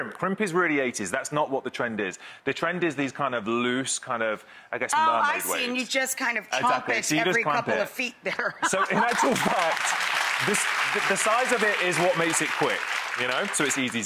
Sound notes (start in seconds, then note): 8.3 laughing; 8.9 audience applauding